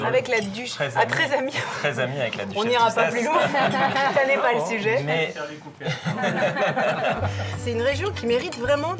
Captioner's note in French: rires